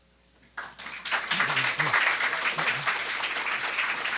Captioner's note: applause